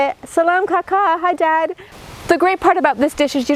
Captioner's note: speaking in foreign language